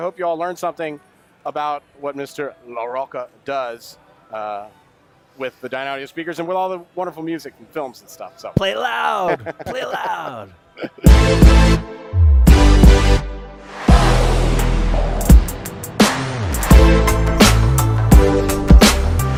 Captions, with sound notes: I hope y'all learned something about what Mr. Larocca does with the Dynaudio speakers and with all the wonderful music in films and stuff, so... - Play loud! Play loud! (laughing)